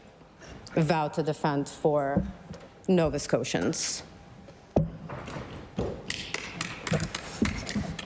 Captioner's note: none